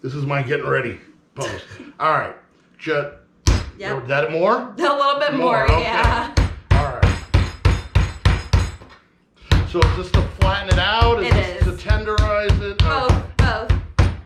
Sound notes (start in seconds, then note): 3.5 thudding; 7.0 thudding